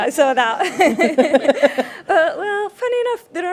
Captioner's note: panelists laugh